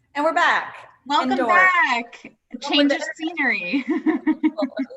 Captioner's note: laughs